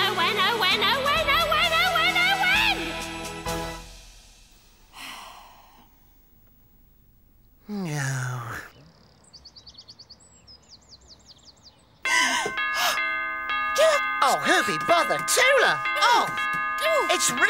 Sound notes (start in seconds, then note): 5.2 sighs; 12.1 door bell ringing; 13.9 gasps